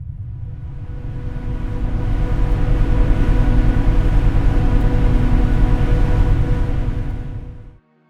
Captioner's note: commercial vessel passing